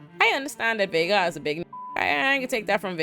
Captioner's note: beep